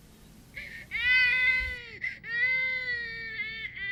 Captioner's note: baby crying